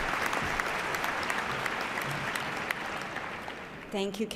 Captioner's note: applause